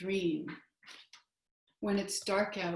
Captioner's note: silence